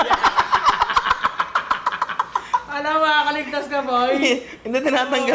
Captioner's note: laughs